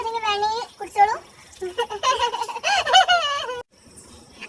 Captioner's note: giggling